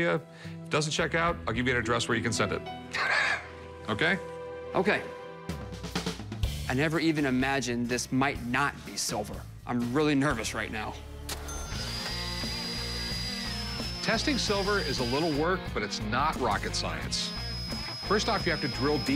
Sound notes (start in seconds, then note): 3.3 laughs; 12.3 rock music playing